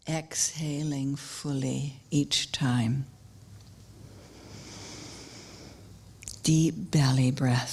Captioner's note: sound of inhalation